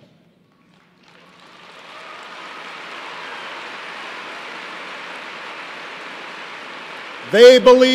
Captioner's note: applause